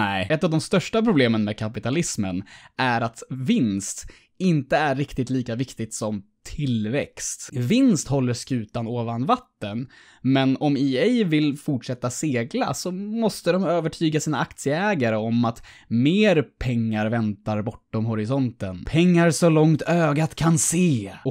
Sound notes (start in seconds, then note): none